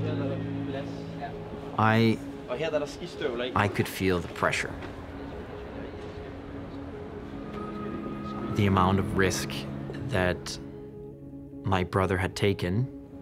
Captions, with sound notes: [speaking in foreign language] I could feel the amount of pressure, the amount of risk that my brother had taken.